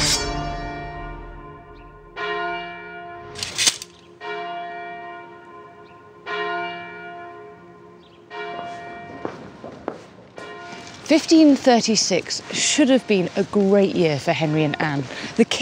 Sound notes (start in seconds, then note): 0.0 soaring orchestral music; 0.0 bell tolls; 0.3 sword unsheathes; 3.3 sword clinks; 9.0 heels clack